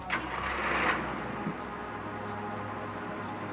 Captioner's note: starts engine